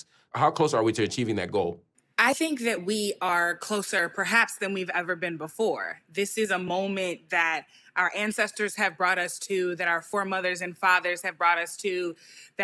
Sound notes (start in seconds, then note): none